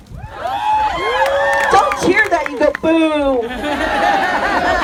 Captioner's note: crowd cheers